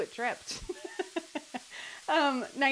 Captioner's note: laughs